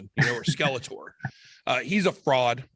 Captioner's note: laughing